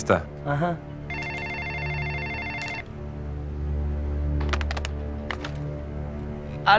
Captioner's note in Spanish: Suena el teléfono